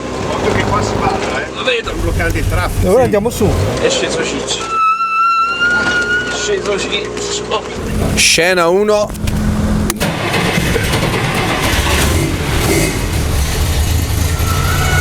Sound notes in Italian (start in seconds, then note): 4.6 sirena che squilla